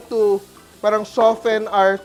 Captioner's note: sizzles